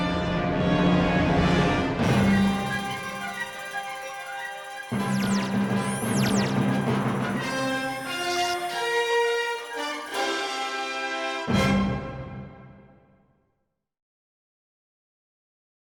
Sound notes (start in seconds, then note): 1.6 dramatic classical music; 6.9 lasers beaming; 11.0 dramatic classical music